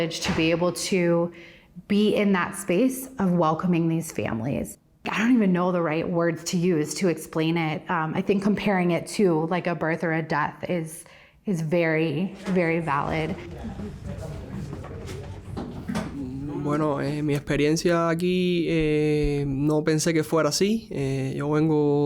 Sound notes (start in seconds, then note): 16.7 speaking in a foreign language